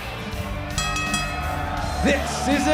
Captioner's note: bell ringing